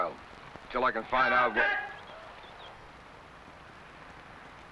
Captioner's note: man shouts